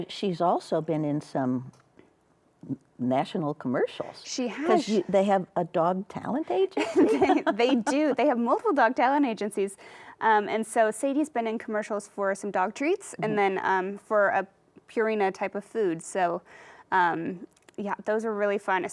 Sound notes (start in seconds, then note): 6.7 laughs